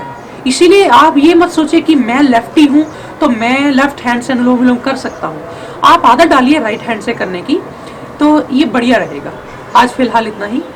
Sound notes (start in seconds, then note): 5.4 alternate nostril breathing